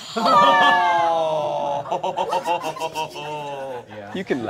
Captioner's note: all groaning